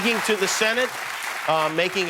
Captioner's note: cheers and applause